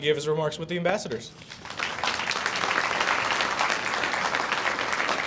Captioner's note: audience applauds